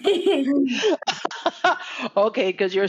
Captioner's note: laughing